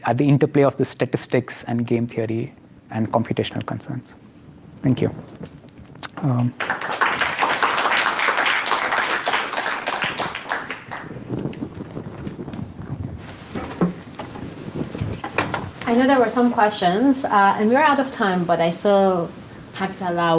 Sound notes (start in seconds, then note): 6.3 applause